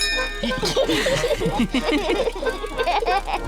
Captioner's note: bell rings; all laugh